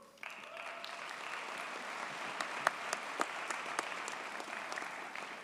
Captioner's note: audience cheers and applauds